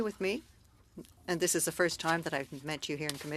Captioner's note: speaking French